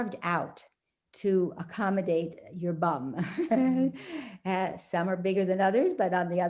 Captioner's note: chuckles